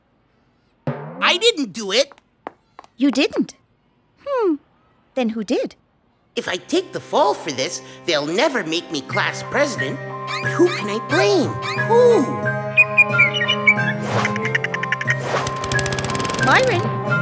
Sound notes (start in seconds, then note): 12.7 bird sings; 13.3 chatters; 15.5 lawnmower whirs